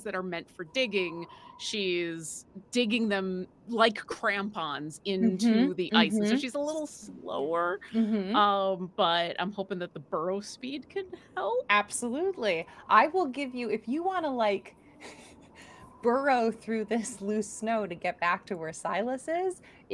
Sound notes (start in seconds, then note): 15.0 chuckles